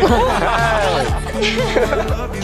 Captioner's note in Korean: 고개 숙이고 웃음